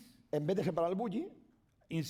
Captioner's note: speaking spanish